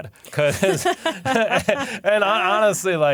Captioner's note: laughter